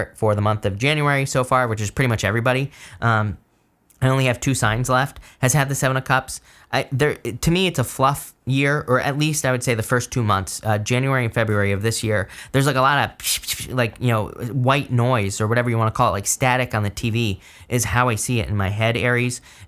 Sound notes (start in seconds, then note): 13.4 makes whooshing noise